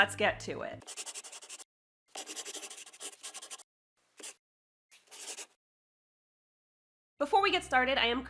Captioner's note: the sound of a pen scratching. LOGO